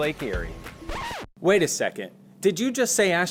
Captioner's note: record scratching